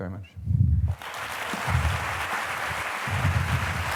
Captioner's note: applause